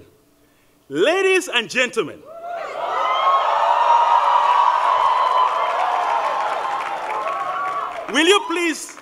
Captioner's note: cheering